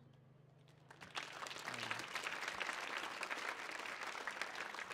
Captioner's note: audience applauds